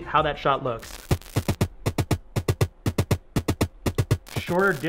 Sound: static crackling; upbeat drum music

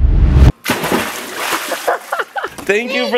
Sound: water splashes; laughs

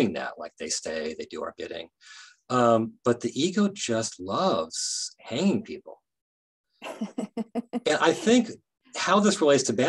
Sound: laughing

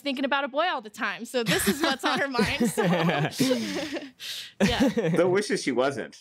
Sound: laughter

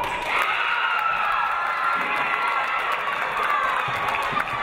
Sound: audience cheering

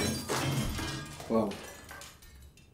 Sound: O.S. glass shattering

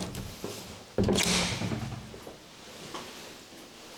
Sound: the sound of opening the door

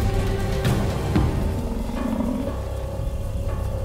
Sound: hyenas laughing

